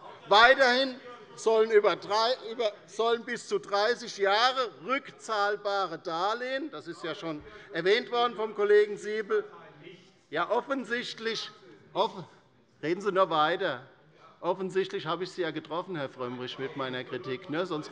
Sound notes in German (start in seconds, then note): none